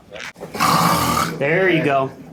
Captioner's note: snorting